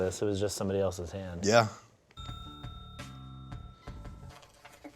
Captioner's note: bell dings